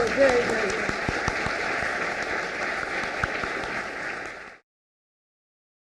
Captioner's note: applause